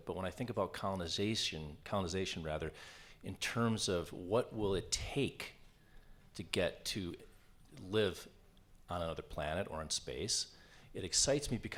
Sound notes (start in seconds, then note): none